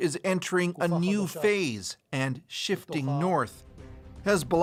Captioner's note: speaking alternate language